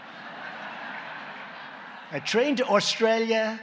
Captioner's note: laughter